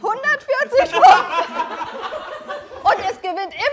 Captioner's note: Gelächter